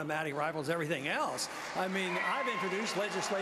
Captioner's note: applause